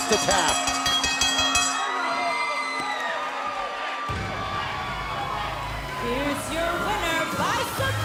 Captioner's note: bell ringing